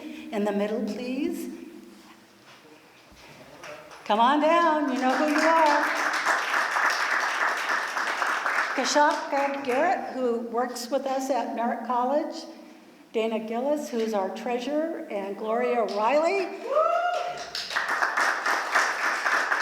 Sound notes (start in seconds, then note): 4.8 applause; 17.0 applause